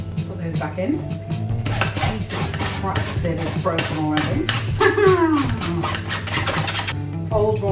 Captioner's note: laughs angrily